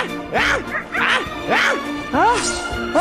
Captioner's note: wolf leader roar